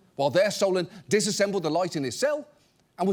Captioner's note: none